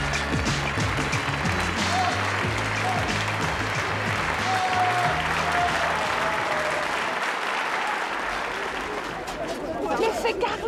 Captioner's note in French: applaudissements